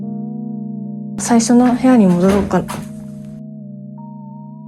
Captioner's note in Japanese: ガチャ！